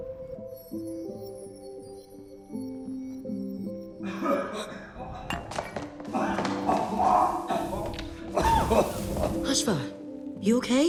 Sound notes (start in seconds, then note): 4.0 coughing